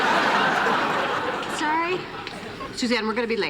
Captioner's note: laughter